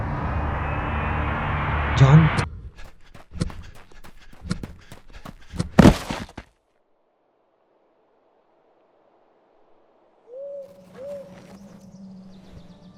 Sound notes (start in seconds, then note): 2.7 panting and running